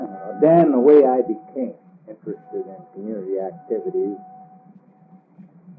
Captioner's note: train whistle blowing